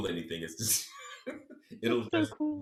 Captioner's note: giggles